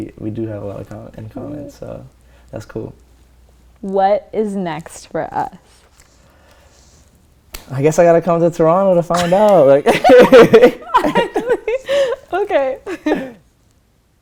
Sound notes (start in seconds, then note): 9.8 laughter